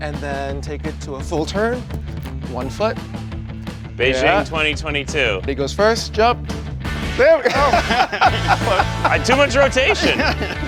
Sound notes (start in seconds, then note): 7.2 laughs